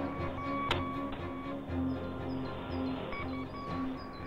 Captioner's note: beeping and hissing